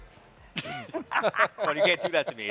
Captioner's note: hosts chuckling